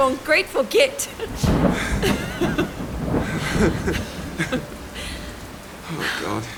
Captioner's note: they both laugh